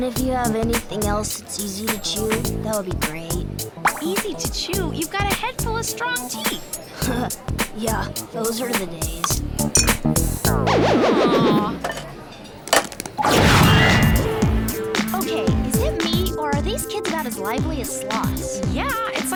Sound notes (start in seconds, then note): none